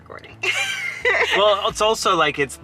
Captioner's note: laughing